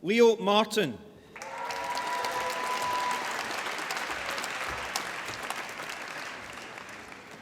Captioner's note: applause